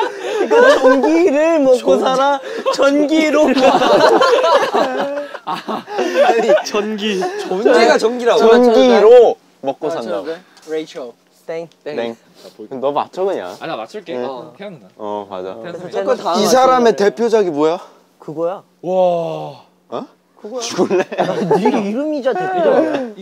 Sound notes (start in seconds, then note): 3.3 cracking up